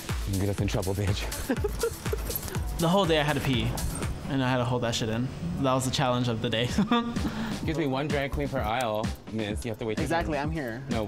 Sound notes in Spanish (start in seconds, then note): 6.7 Risas